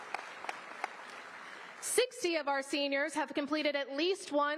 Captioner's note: applause